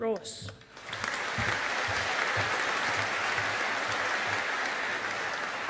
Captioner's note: audience applauding